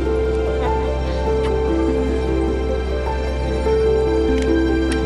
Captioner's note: lips smacks